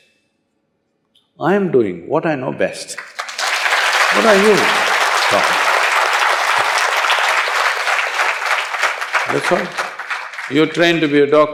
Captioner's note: applause